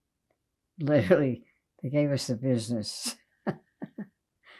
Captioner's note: laughing